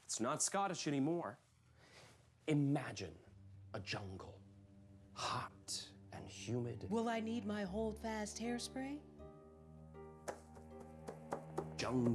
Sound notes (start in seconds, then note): 4.6 soft music; 10.2 tapping